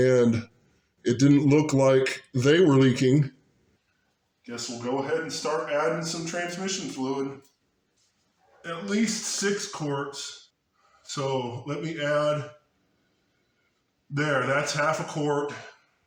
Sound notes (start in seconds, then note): none